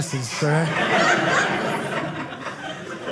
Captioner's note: audience laughing